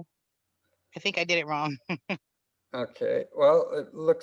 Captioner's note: laughs